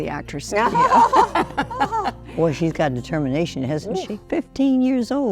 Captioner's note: laughs